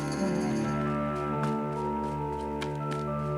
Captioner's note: footsteps